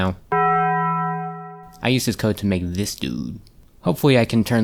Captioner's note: taco bell sound